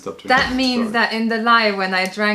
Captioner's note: laughter